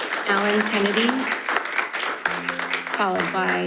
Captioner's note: audience applauding